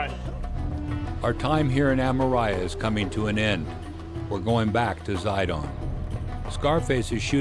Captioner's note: voiceover